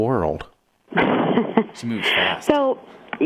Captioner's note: guest laughing